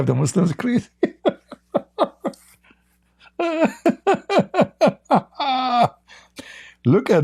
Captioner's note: Ketawa